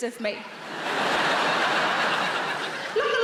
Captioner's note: audience laughing